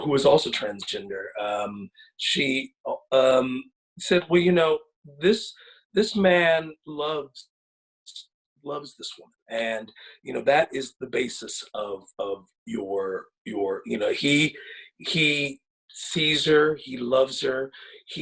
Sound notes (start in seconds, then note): none